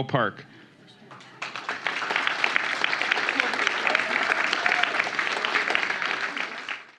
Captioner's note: applause